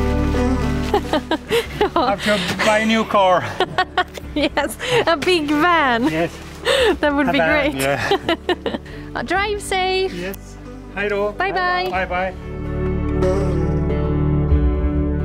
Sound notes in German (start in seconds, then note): 0.8 Lacht